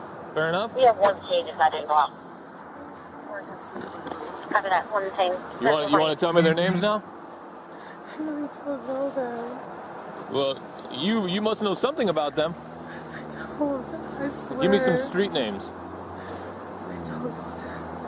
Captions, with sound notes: Fair enough? You have one detained is not involved Marcus (Radio chatter) one detained You wanna, you wanna tell me their names now? I really don't know them Well... you, you must know something about them I don't I swear Give me some street names I don't know them